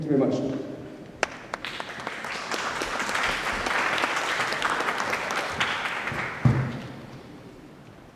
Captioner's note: applause